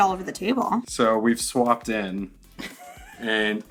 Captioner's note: laughs